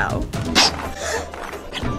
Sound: children gasp

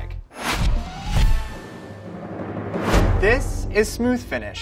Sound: whooshing; drum rolls

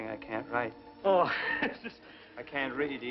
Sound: Yakov chuckles

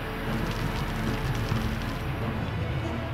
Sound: fire crackles

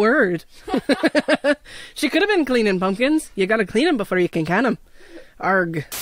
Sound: laughter

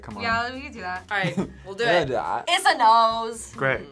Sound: laughs

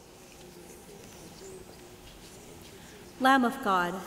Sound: congregation murmurs

